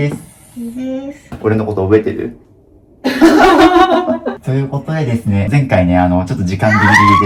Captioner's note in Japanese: 笑い